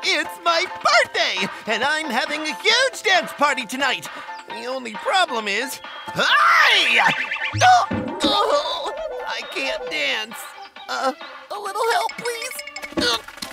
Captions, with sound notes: It's my birthday and I'm having a huge dance party tonight. The only problem is (yells) I can't dance. A little help please.